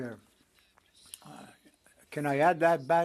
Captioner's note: speaking French